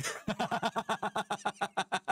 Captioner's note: laughing